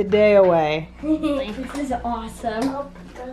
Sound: laughs

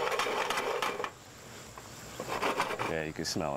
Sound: pan scraping

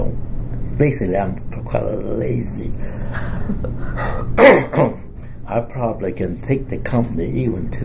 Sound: laughs; coughs

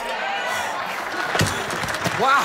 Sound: audience applauds

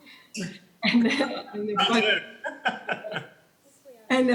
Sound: laughing

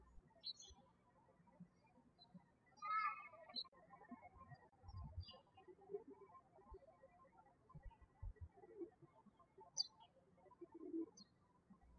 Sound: birds chirping

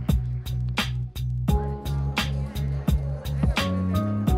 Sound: crowd talking

